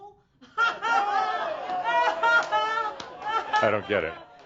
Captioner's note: laughs loudly and audience laughter